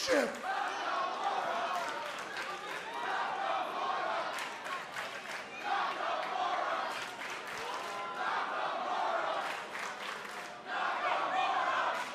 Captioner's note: fans chanting